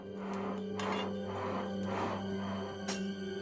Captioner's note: air pumps